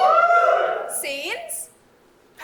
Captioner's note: audience: "WOOOO"